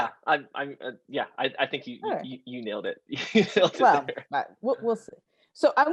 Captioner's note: laughs